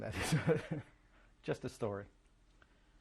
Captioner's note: laughs